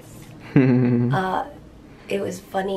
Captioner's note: chuckles